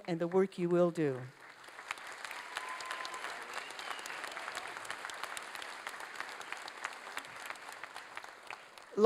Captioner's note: applause